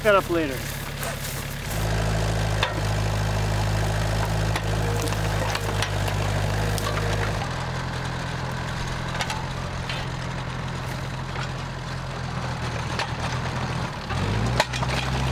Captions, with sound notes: I'll pick that up later. (engine roaring)